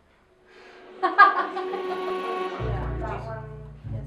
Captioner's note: laughter